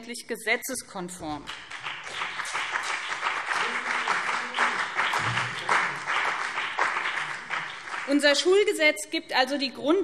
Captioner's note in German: Beifall BÜNDNIS 90/DIE GRÜNEN und CDU